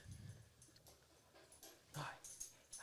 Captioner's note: dog tags jingling